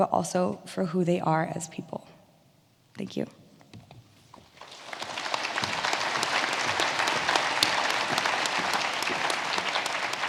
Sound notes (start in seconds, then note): 4.5 audience applauding